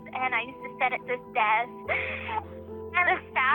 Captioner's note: laughs